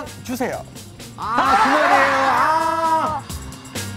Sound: ahhhhhhhhhh

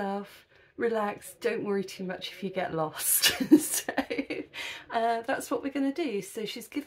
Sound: laughing

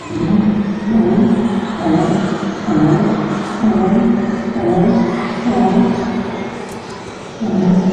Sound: more dinosaur sounds; dinosaur growling again

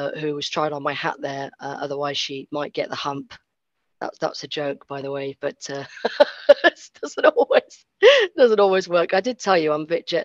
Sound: laughs

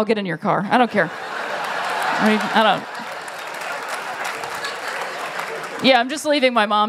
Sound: laughter; applause

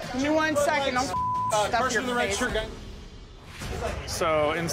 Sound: beep

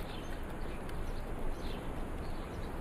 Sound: birds chirping

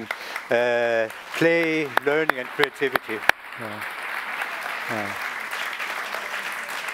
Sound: applause

